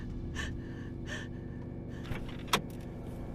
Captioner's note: person breathing; tense music